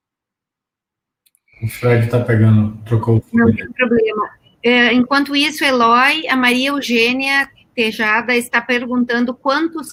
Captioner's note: multiple voices